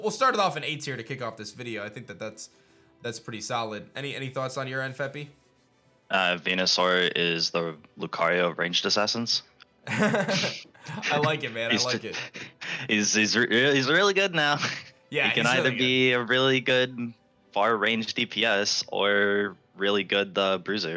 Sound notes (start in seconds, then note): 9.8 laughs